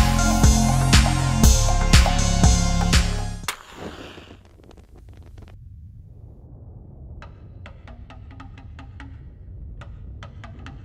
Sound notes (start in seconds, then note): 3.5 sound of match striking